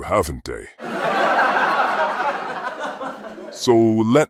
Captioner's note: audience laughing